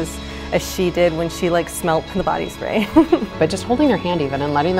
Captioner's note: laughs